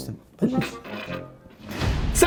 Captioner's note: chortles